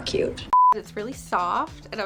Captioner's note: audio beeping